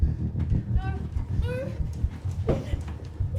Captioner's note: off screen panic